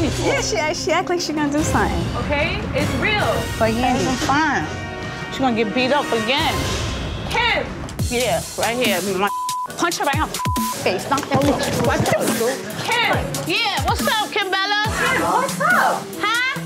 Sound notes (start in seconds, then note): 10.1 beep